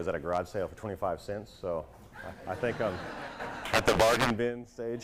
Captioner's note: laughter